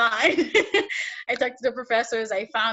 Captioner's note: laughs